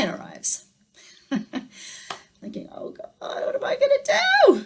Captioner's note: chuckles